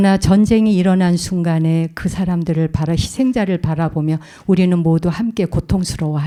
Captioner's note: speaking in Korean